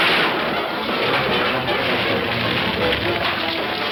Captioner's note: fire crackling